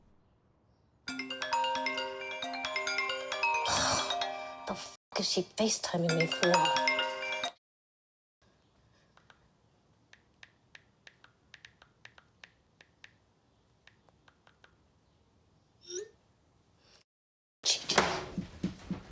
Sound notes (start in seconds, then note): 1.1 phone ringing; 3.6 sighs; 10.7 phone keyboard clicking